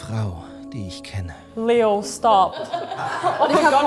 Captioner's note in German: Lachen